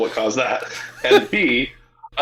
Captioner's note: laughing